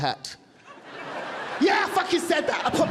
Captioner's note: audience laughing